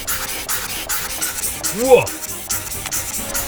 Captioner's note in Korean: 감탄